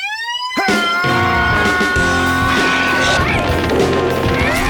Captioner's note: rock music; Shepherd battlecries